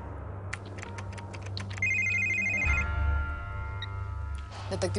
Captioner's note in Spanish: Tecleo; Suena un celular